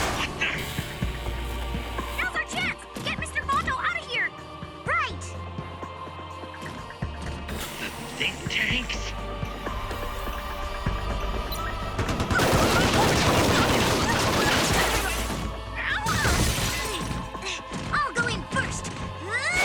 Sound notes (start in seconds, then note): 12.8 exclaiming; 18.9 grunts